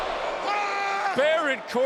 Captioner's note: Baron Corbin yelling